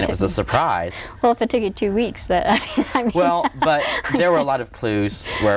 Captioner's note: laughs